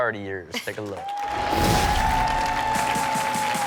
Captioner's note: audience cheers; upbeat music